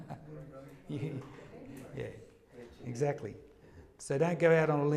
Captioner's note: laughs